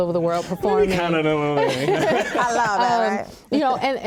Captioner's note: laughing